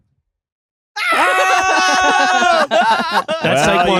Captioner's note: screaming; yelling